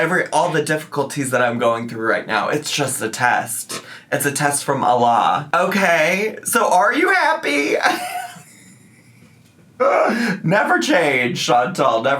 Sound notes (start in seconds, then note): 8.6 laughs